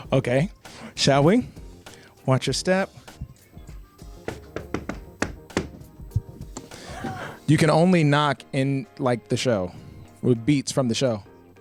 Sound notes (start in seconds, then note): 4.2 knocks